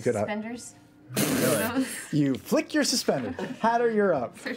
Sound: laughs

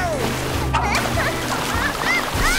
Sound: moaning

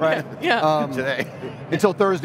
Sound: laughing loudly

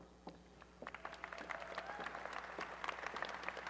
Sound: applause and cheering

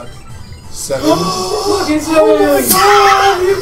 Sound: gasp

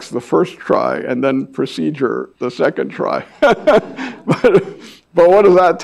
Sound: laughs

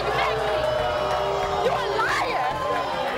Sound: audience boos

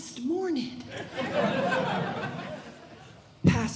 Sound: audience Laughing

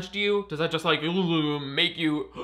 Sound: whimpers; inhales sharply

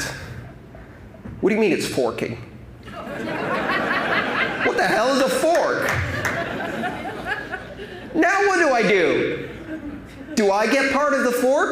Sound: laughter

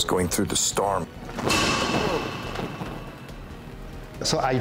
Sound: metal clanks

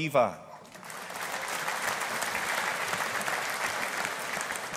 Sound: audience applauding

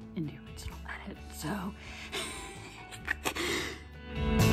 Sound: laughs

